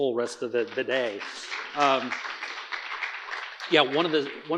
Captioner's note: audience applauding